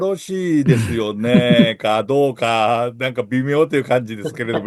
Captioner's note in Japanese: 笑い